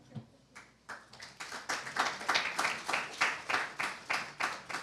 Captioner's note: applause